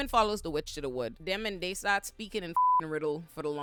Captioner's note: beep